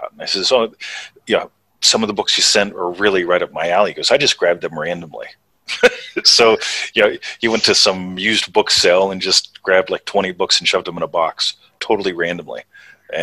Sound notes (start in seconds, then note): 5.7 chuckles